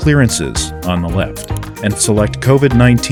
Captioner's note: mouse click